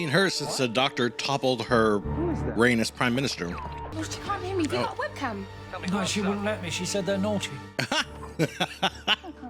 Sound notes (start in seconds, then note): 7.8 sharp, surprised laugh; 7.8 laughing